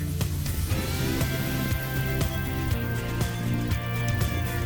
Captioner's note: wind blowing